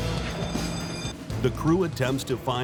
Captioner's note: alarm bell rings